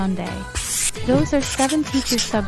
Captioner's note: hand Wipe Noise